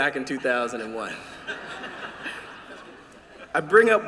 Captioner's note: laughter